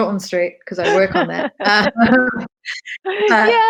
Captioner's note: laughs